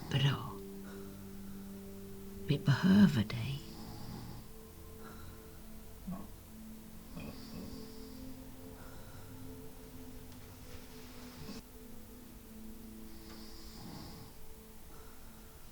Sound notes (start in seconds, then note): 7.1 snoring; 7.9 eerie ambient music